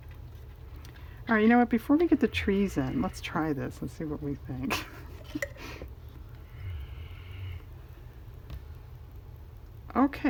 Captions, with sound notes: all right you know what, before we get the trees in, let's try this and see what we think (laughs) okay